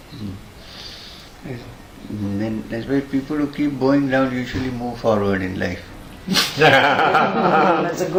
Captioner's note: laughter